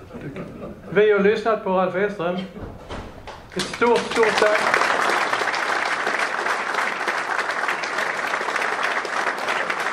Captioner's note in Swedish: Applåder